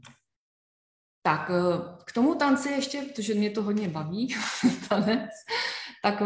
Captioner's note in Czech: smích